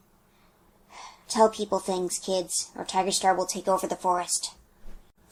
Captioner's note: sigh